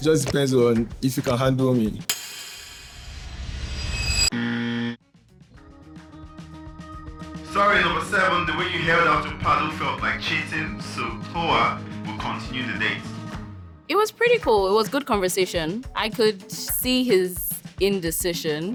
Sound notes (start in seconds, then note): none